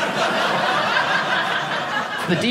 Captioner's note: audience laughing